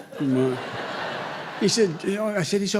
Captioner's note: laughter